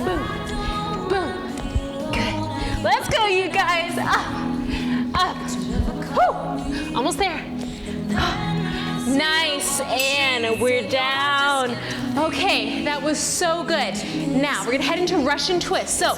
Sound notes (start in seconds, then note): 5.0 yelps